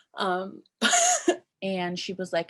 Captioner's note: laughing